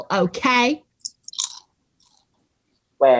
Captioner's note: crunching chips